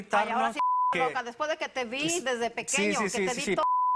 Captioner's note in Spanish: Bip; Bip